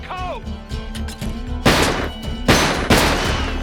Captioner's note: gunfire